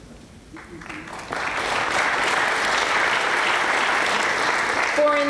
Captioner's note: applause